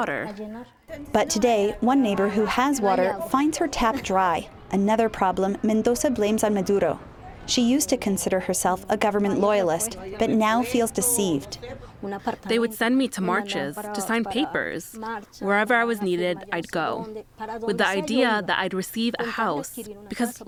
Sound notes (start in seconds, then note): 12.0 through translator